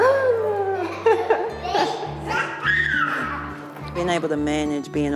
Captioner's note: laughter